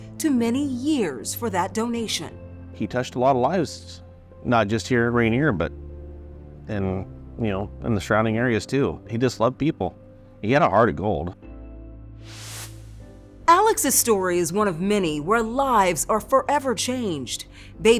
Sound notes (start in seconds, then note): 12.2 screen whooshing